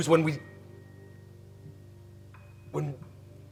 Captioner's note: Abe falters